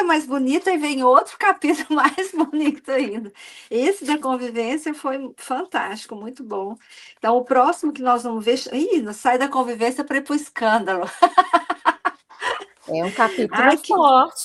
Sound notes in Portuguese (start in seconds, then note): 11.0 risadas